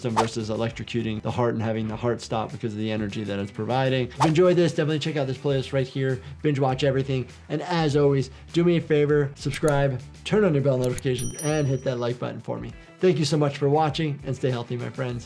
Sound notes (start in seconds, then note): 4.2 screen whooshing